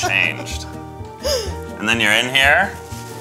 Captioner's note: laughter